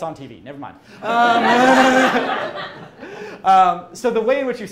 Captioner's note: crowd laughs